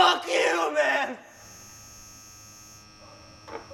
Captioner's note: light bulb buzzing